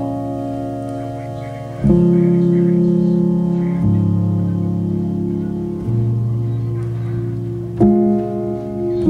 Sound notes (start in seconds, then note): 0.9 TV in background